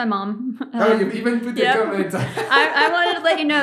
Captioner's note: laughing